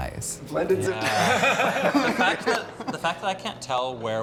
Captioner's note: all chuckling